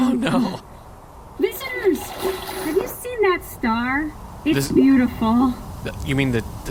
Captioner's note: vigorous splashing sounds